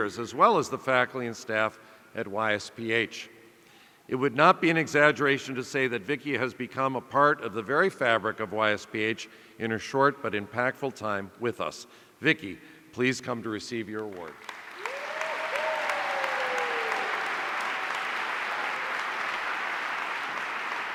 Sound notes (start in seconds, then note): 14.4 audience cheering